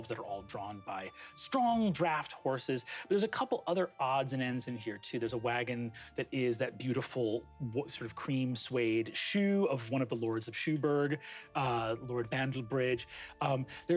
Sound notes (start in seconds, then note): none